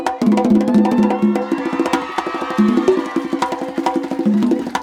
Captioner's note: applause and cheering